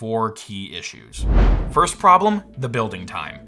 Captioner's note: air whooshing